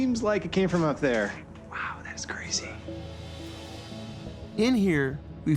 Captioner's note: quietly